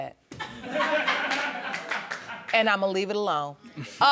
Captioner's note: audience laughing